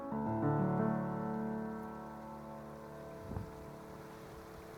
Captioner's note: waterfall